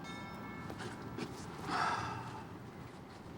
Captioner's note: doorbell rings; sighs